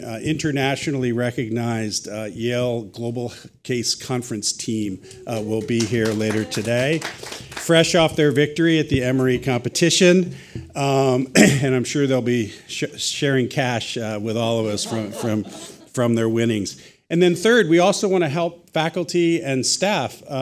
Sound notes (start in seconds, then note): 5.3 audience applauds; 14.7 audience laughs